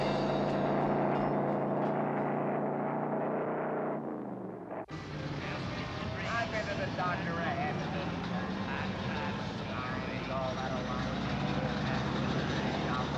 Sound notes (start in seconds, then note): 4.8 indistinct chatter